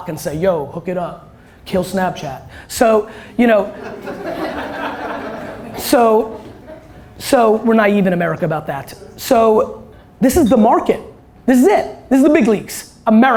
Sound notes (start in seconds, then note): 3.6 laughter